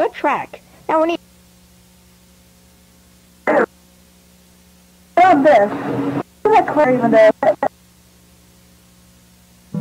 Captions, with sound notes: The track. Now we need... (distorted audio artifacts)